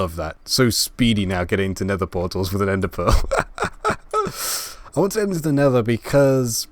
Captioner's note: laugh